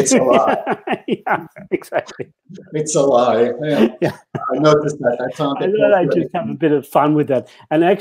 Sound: laughter

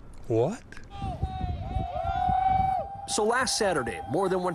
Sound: group cheers; group shouts

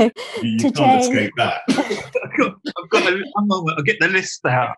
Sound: laughing

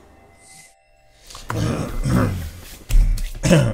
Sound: coughing

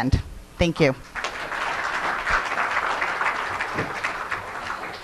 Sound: audience applauding

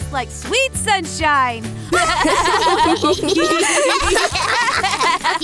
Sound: laughs

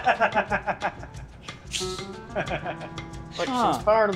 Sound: laughing

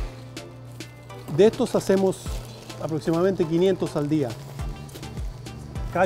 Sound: speaks Spanish

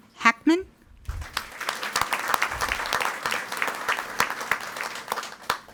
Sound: audience applauding

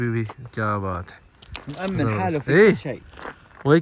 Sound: Arabic

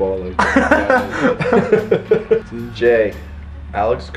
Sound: laughter

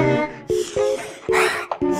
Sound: deep breath x2

